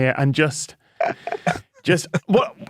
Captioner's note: guests wheezing